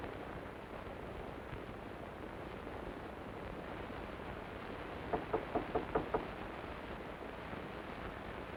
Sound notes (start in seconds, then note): 5.1 knocking on doo